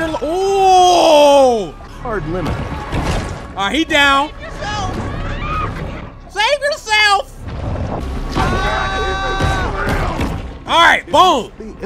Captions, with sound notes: OH! [Voiceover] Hard limit. All right he down. - Save yourself. (people screaming) - Save yourself. (people screaming) All right boom.